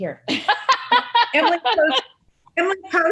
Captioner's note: laughs